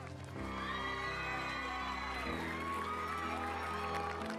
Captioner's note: cheering